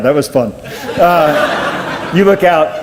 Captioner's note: audience laughs